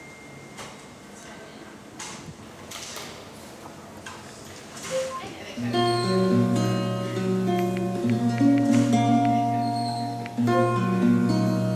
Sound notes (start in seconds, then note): 4.9 message sound; 7.5 typing